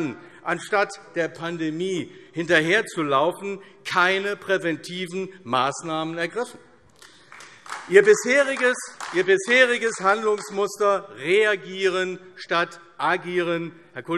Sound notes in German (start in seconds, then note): 7.0 Beifall AfD